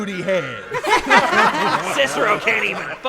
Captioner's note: laughter